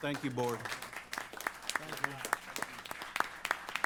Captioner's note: applause